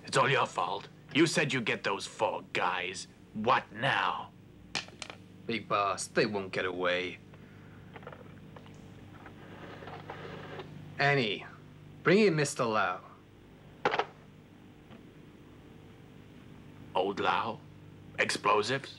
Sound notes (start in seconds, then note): 13.8 phone clatters